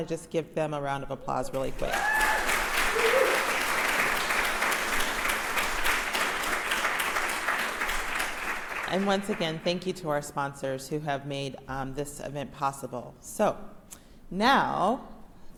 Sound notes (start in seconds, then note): 1.5 applauses